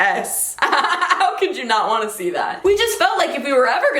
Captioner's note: laughs